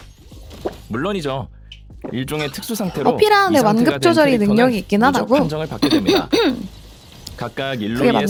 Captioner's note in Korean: 기침; 목을 가다듬음